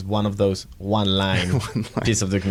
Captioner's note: laughs